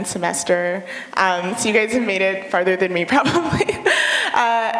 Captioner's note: laughter